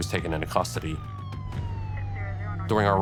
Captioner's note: police radio chatter